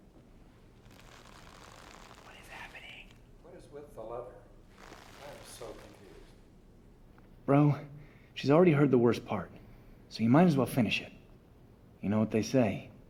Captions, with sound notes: [leather squeaking] [whispers] What is happening? What is with the leather? I am so confused. Bro, she's already heard the worst part, so you might as well finish it. You know what they say,